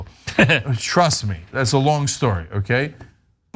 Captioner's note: laugh